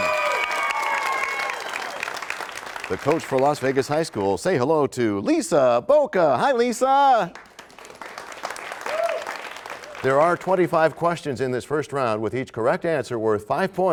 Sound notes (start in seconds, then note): 0.0 cheers and applause; 7.2 applause